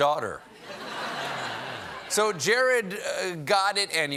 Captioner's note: laughter